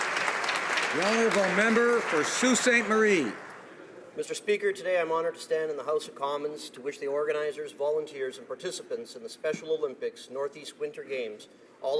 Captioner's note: applause